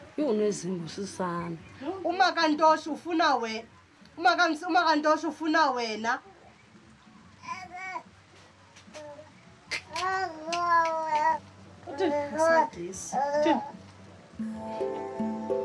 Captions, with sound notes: This one has tricks... Ntosh's mother... Ntosh's mother is looking for you! (child babbling) She's being rude... What did she say?